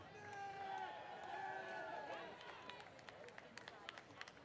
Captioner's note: cheering